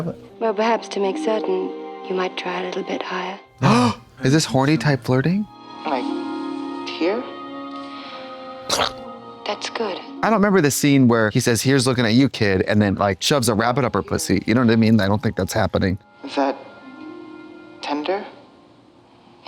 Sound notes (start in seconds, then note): 8.7 Katya splats